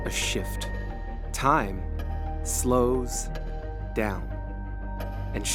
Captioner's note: clock ticking